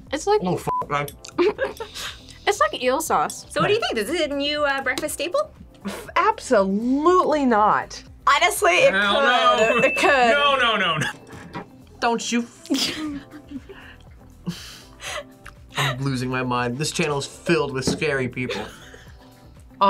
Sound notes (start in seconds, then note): 1.5 laughs; 12.7 laughs